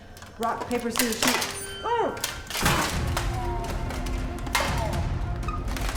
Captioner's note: grunts; ominous music continues